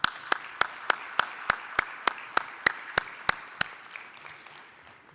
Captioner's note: applause